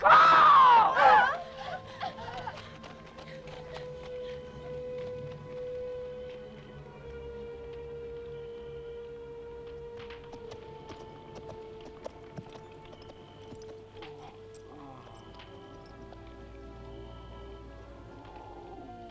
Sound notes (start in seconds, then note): 1.1 wives whimper; 14.0 Torente groaning